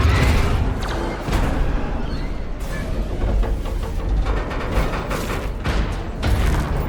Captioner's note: gunshots